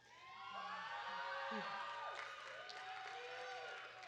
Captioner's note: audience cheering